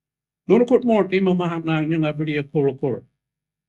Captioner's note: Speaking in Noongar